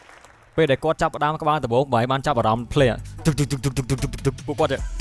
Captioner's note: sound of stomping feet